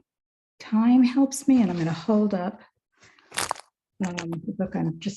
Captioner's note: paper rustling